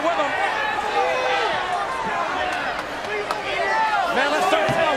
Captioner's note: crowd chattering